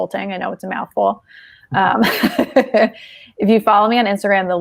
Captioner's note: laughing